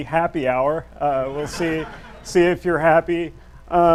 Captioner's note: audience laughs